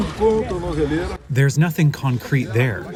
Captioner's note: through translator